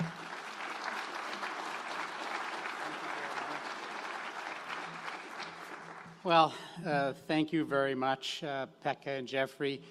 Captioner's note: applause